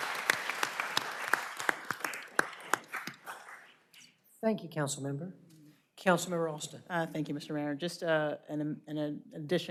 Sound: applause

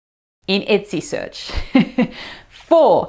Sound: laughs

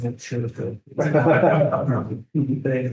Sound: group laughing

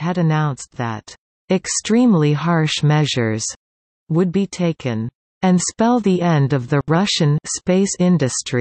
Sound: Russian

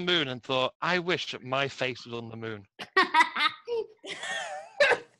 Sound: laugh

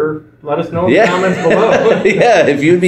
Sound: laughs

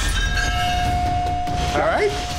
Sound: plates shattering; foreboding zing

